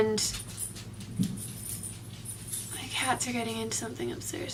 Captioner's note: jingling and thudding